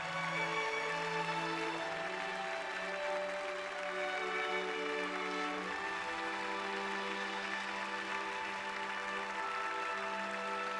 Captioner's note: applause